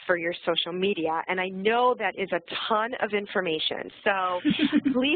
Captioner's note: laugh